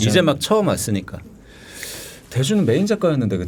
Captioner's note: inhaling